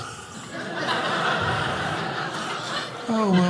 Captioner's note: audience laughing